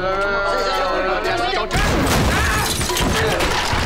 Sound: screaming

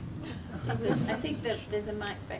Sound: people laugh

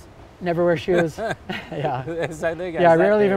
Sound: laughs

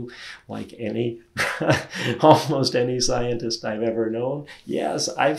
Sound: laughs

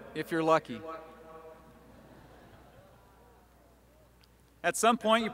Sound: laughter

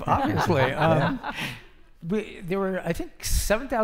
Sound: laughing

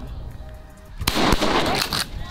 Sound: gunshots

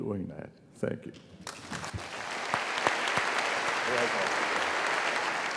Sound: applause

